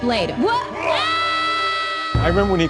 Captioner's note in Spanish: Grita